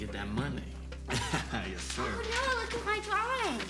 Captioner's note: laughs